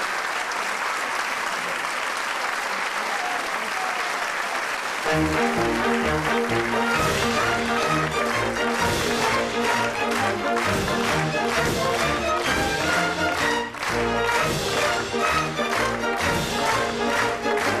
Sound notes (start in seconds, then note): 4.8 applause; 5.0 curtain call music plays